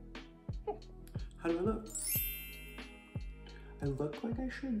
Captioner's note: twinkly chime